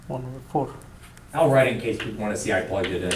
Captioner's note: voiceover